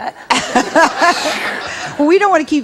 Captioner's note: audience laughs